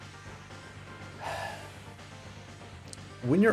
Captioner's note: exhale